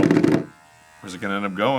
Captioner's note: still loudly vibrating